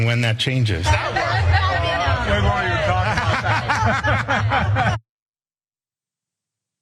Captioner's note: laugh